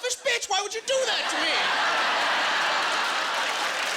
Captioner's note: laughing